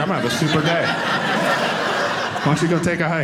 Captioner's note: audience laughing